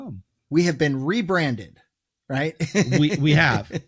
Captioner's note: laughs